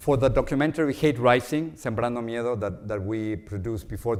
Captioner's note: speaks Spanish